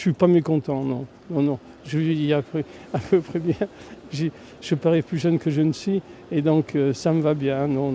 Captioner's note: laughs